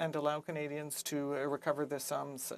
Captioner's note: speaking French